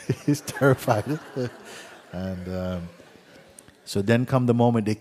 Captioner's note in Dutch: gelach